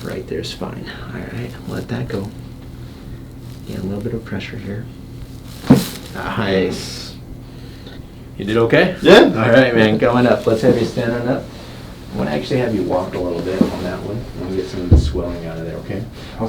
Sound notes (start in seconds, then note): 5.0 popping